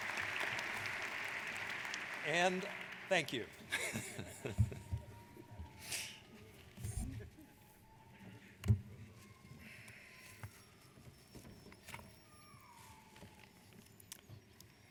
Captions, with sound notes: - And thank you. (laughs)